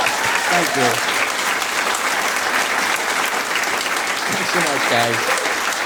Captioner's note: audience applauding